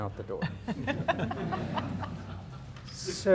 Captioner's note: everyone laughing lightly